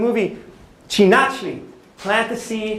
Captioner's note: non-english speech